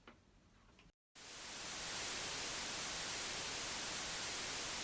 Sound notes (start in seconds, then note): 1.2 static crackle